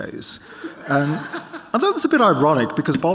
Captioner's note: audience laughing